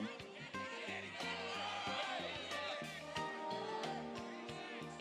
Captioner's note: audience members yell